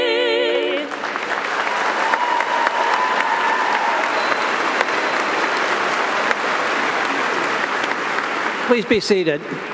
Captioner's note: audience applauding